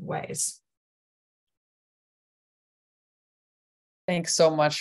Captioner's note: pause